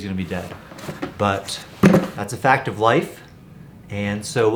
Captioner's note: bucket clunking